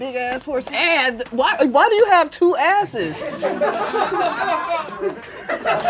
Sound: laughter

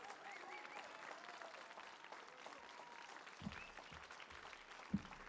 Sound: audience whistles and cheers

